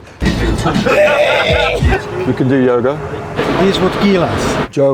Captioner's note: grunts